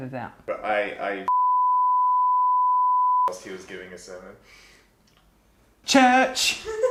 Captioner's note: beeping; man laughing